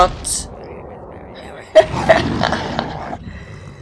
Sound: laughs

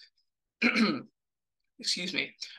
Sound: throat clears

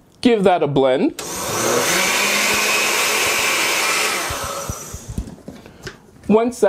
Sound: blender sound

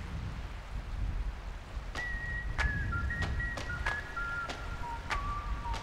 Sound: waves on the beach

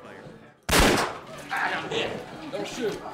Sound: gun firing

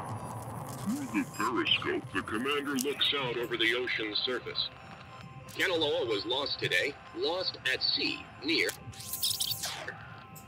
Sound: radio

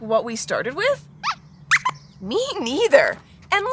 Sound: squeaks squeaks

